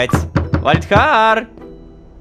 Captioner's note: knock on door